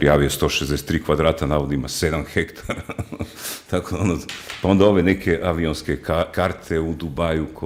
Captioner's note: snorting